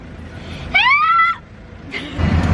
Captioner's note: screams